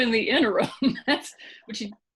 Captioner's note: laughing